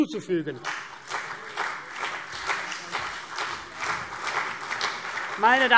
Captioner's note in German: Beifall CDU und BÜNDNIS 90/DIE GRÜNEN